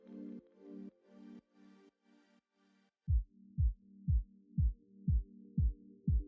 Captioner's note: heart beating